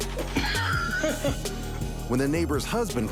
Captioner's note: homeowner laughs